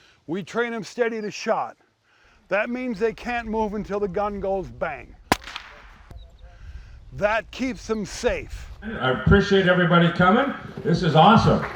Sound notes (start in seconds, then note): 5.3 gun bangs